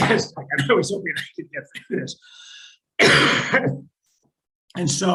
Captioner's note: coughing; drowned out by coughing